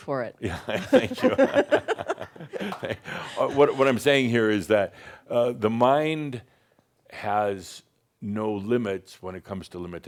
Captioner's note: they chuckle; chuckles